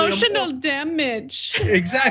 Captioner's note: laugh